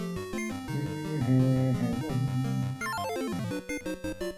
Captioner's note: humming along